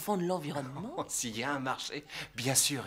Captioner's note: laughs